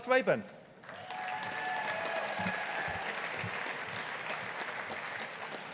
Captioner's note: audience applauding